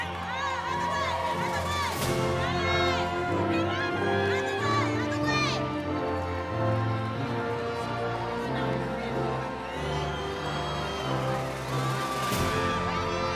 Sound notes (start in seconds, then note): 5.0 cheering continues; 5.0 inspirational music